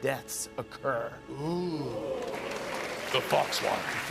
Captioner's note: audience "oohs"